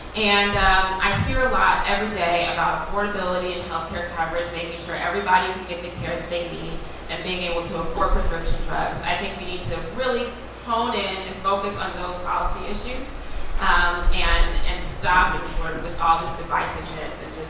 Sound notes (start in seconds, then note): none